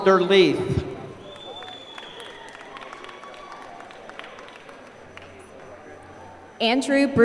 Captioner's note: applause